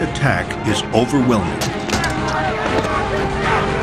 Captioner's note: weapons clack; soldiers shout and yell